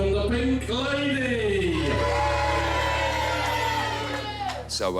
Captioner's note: cheering